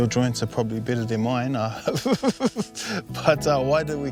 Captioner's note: laughs